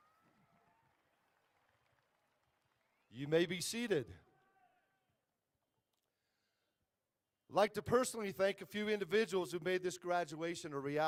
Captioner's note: applause